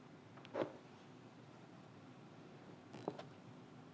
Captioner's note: pages whooshing